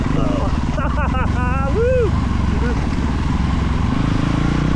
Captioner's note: engine revving; tires screeching; laughing